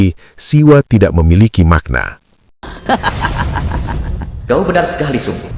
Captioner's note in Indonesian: tertawa